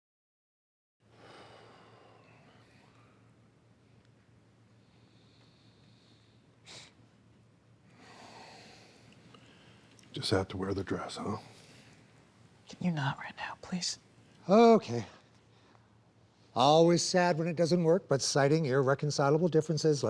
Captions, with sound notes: ( exhales ) ( sniffs ) Just had to wear the dress, huh? - Can you not right now, please? - Okay. Always sad when it doesn't work, but citing irreconcilable differences,